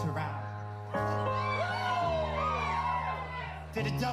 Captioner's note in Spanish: el público vitoreó